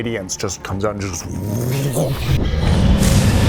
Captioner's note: wooosh